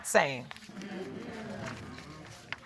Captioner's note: audience agreeing